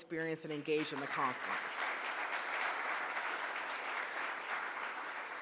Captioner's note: audience claps